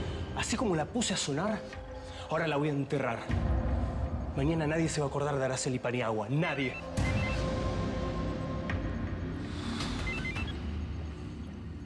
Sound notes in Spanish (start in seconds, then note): 6.4 suena un celular